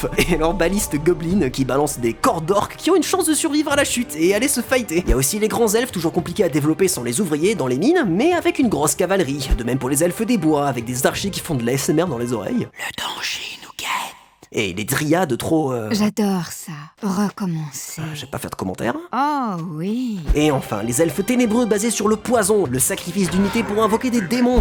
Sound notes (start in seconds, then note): 15.8 horny voice